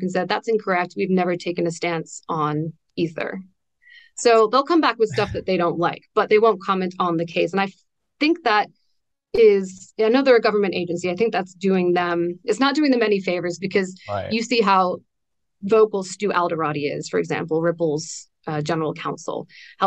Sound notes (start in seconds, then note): 5.1 laughs